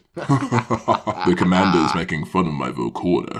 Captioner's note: laughs